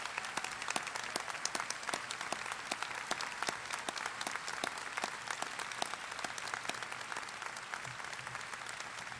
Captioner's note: applause